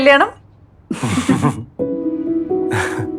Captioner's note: chuckles